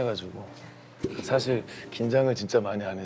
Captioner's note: pfft!